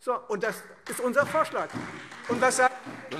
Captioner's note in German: Beifall Freie Demokraten und vereinzelt SPD